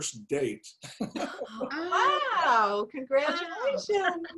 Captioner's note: laugh